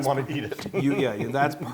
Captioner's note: laugh